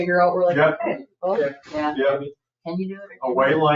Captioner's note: people chattering